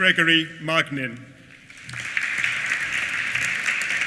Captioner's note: applause